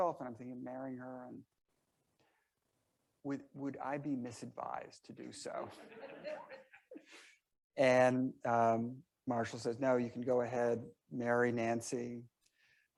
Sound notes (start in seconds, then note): 5.5 members laughing